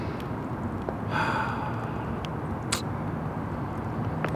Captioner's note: sighs